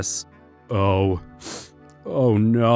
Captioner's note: sniffles